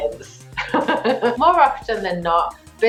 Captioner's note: laughing